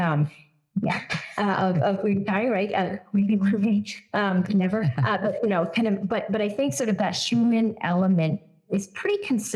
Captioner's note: laugh